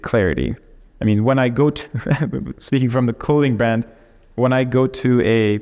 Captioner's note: chuckles